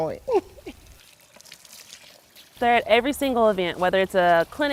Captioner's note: laughs